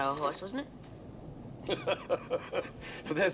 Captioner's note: chuckling